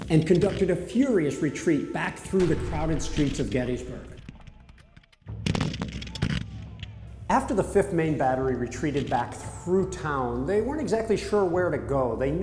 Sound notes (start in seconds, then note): 5.2 guns firing